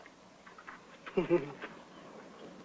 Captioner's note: chuckling